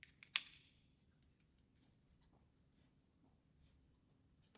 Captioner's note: can tab clicks